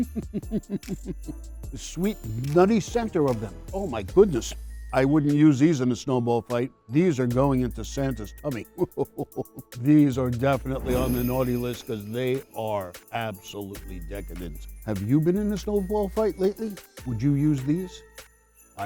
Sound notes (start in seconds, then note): 0.0 chuckles; 8.8 chuckles; 10.7 bells ringing